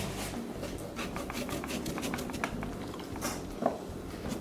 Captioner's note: knife slices